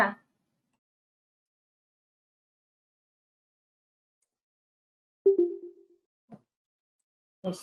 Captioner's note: silence